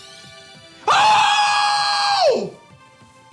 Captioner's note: screams